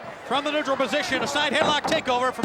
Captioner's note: none